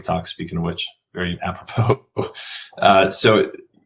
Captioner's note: laughs